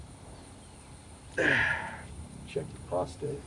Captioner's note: Anderson sighing